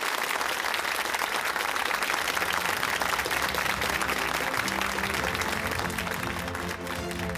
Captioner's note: applause